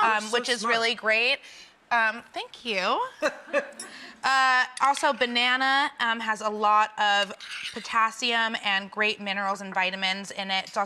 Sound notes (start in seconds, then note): 3.2 laughs